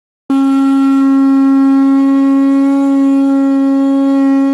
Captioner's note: conch horn